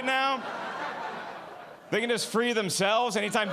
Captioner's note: audience laughing